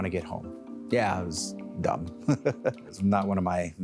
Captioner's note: laughs